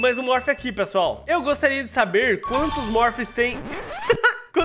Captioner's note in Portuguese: risos